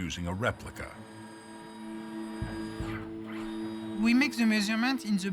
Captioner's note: device whirring